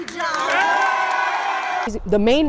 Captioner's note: cheering